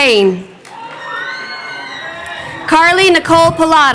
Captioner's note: crowd cheering